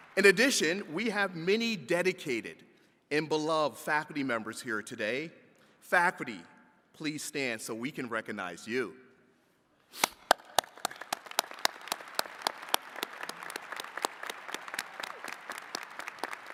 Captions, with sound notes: In addition, we have many dedicated and beloved faculty members here today. Faculty, please stand so we can recognize you. (attendees clapping)